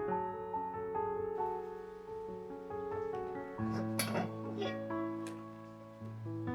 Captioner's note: lid closed